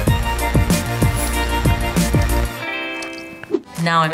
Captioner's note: paint splattering